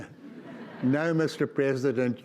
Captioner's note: audience laughs